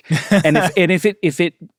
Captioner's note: laughs